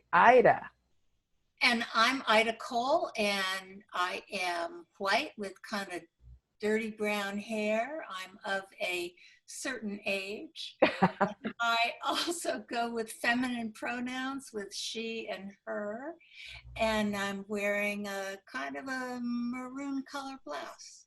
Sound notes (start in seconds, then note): 10.8 chuckling